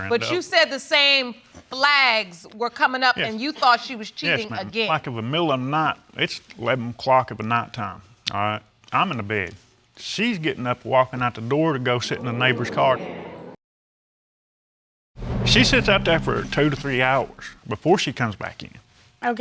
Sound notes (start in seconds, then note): 12.4 audience exclaiming; 14.8 audience exclaiming